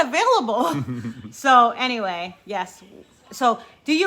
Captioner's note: chuckling